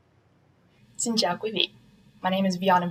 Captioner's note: speaking in foreign language